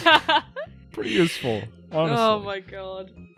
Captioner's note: laughter; laughing